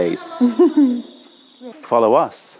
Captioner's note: laughter